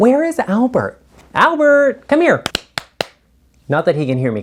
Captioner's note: clapping